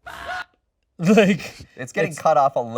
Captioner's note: Annoying Orange hiccups; bananas yelling